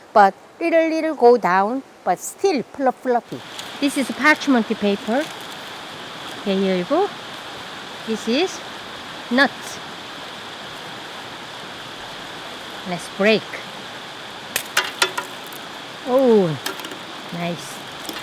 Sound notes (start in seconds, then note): 14.5 cookie clattering